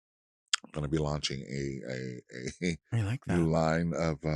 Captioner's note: chuckles